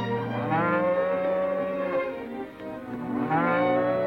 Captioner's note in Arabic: خوار الأبقار